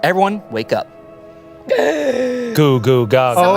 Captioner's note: gasps